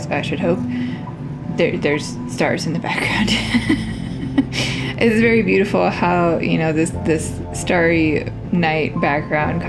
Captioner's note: laugh